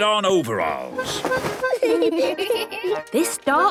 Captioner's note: giggling